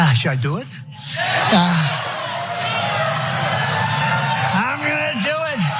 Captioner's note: applause